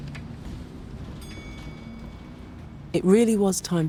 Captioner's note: bus bell ringing